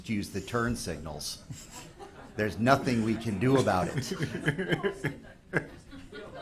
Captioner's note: people in the room laugh